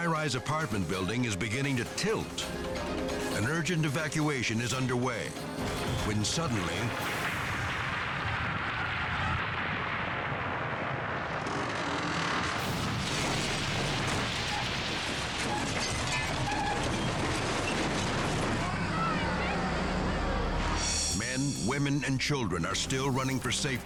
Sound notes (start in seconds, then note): 7.1 building cracking; 13.0 building crashing; 18.5 people shouting